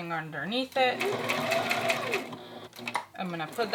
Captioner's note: sewing machine whirs